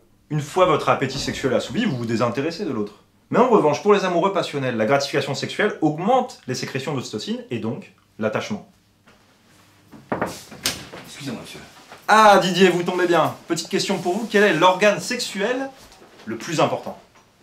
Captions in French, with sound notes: une fois votre appétit sexuel est assouvi, vous désintéressez de l'autre. Mais en revanche, pour les amoureux passionnels, la gratification sexuelle augmente les sécrétions d'ocytocine et donc, l'attachement [toque à la porte] Excusez-moi Monsieur. Ah Didier, vous tombez bien ! Petite question pour vous, quel est l'organe sexuel le plus important ?